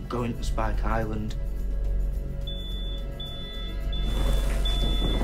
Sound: beeping

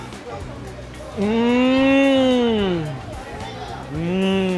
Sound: murmurs

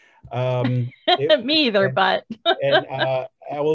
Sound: laughs

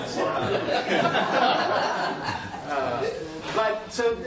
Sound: laughter

